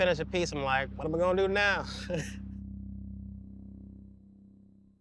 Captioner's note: laughs